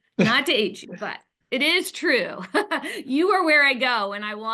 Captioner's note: chuckles